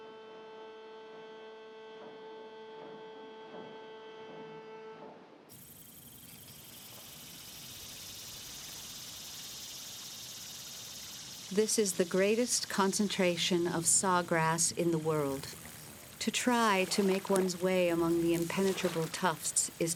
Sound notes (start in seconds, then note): 5.8 insects chirping